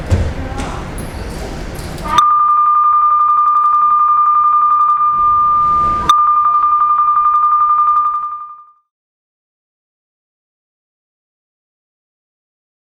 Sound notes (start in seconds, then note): 2.8 bells